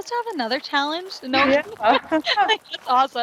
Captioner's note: laughs